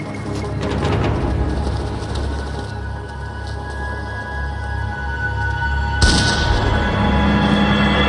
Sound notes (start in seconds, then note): 6.0 gunshot